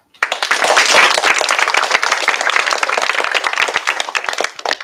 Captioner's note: applause